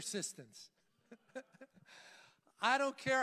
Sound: laughs

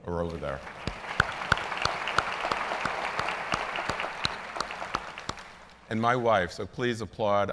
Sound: applause

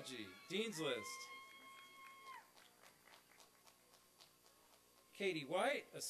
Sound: applause and cheering

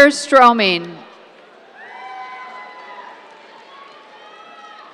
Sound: cheers

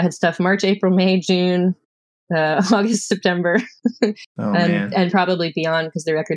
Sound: laughter

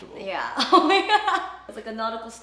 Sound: laughs

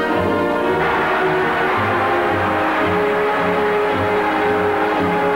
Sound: crowd cheering

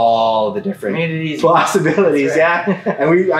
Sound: laughs

